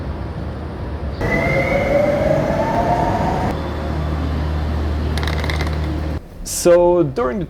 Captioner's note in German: Bahnhofsgeräusche